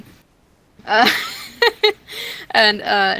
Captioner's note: laugh